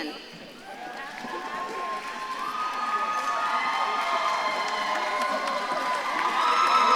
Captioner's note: audience claps and cheers